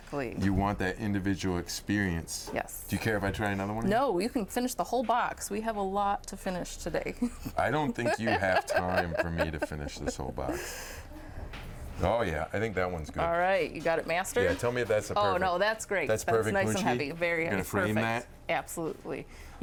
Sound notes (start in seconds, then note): 7.3 chuckling